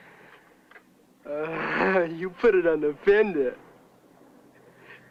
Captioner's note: laughing